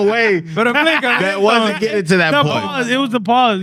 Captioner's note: speaking In Foreign Language